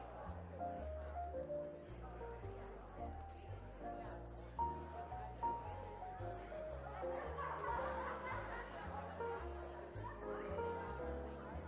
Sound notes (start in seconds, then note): 3.5 lighthearted music continues; 7.5 attendees laughing